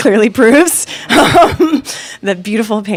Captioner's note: laughing